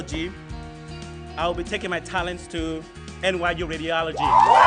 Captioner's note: applause